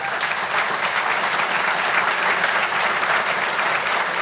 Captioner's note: applause